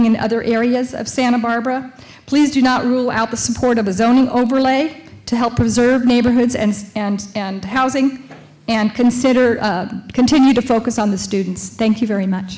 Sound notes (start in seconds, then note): none